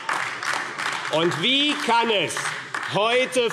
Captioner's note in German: Beifall AfD